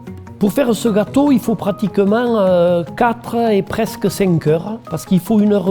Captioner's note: speaking in foreign language